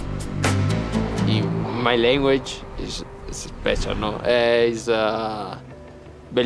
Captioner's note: speaking Italian